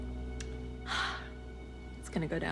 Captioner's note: joyful sigh